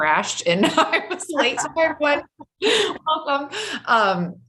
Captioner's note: laughing